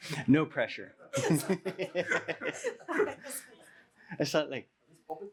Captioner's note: laughter